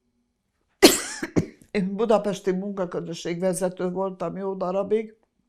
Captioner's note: coughing